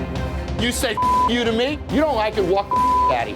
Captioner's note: beep; suspenseful music; beep